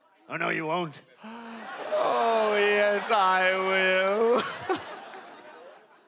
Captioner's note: kghh